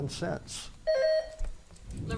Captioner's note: buzzer beeps